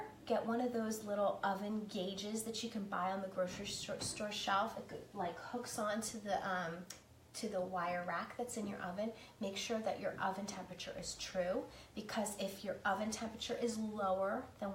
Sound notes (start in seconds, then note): none